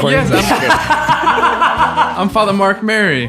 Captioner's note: all laughing